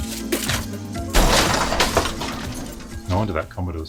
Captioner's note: glass breaking